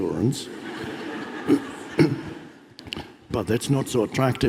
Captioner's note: audience laughs